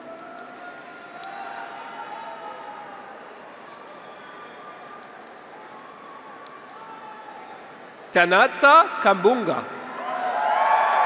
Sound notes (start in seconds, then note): 0.5 graduates cheer; 1.0 audience applauds; 9.8 graduates cheer; 10.5 audience applauds